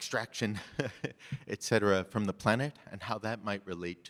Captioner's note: chuckles